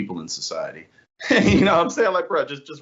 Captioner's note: laugh